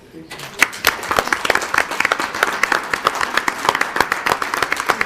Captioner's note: audience applauding